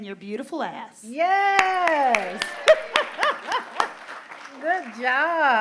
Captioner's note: laughter